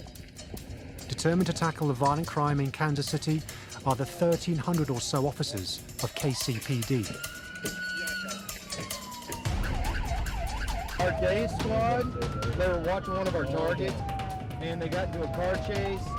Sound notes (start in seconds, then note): 8.3 siren blaring; 11.3 intense music